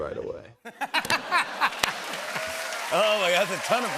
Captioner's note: laughter